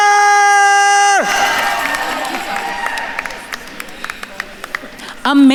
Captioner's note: attendees cheering and applauding